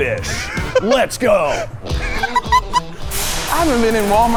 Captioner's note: laughing